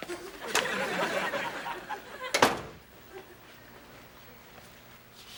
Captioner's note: audience lauding